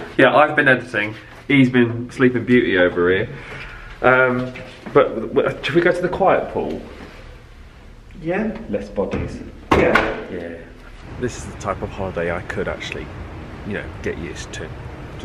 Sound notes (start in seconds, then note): 9.7 door clicks